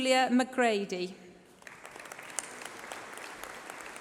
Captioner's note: applause